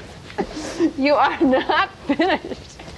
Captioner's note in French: rires